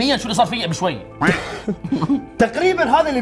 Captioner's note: laughs